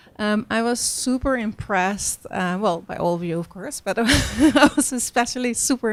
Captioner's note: laughs